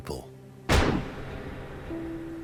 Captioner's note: gunshot